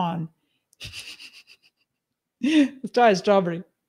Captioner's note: laughs